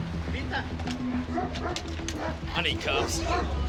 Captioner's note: dog barks